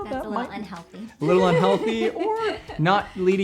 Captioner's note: laughs